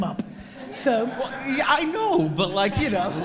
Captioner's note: audience laughs